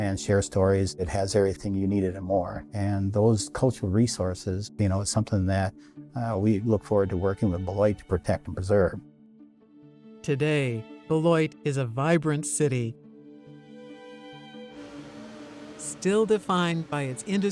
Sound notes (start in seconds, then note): 14.7 angle grinder howling